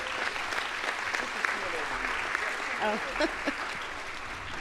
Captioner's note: audience applauds